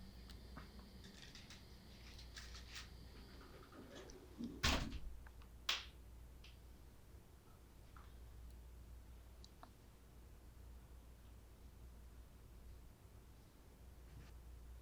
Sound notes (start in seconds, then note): 5.7 lock clicking